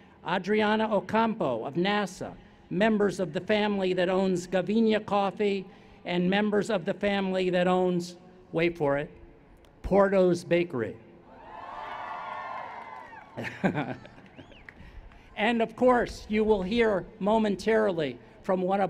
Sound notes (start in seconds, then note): 11.3 cheers; 13.3 chuckles